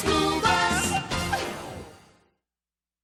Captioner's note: horn honks